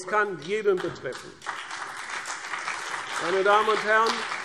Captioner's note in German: Beifall CDU und BÜNDNIS 90/DIE GRÜNEN